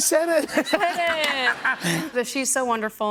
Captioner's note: laughter